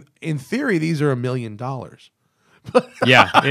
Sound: laughter

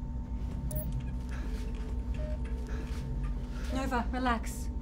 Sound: Nova breathes uneasily

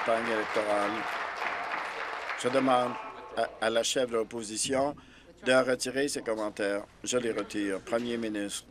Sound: applause

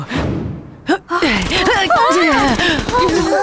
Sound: gunfire

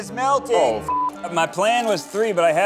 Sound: beep

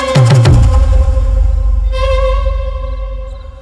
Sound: breathing rapidly

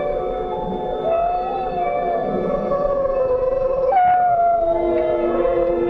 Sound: howls

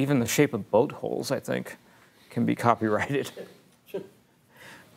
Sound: chuckles

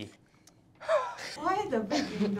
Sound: sighs

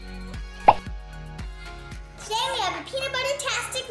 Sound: pop

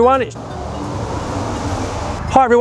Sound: noisy cars driving by!

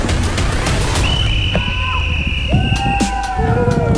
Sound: triumphant music; whistle blows

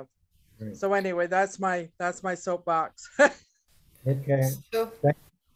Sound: laughs

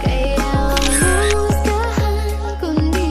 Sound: camera click

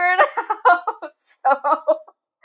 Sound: laughing

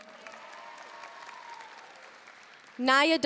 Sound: audience cheering and applauding

